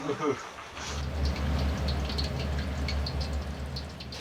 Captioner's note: sound of deep-frying in oil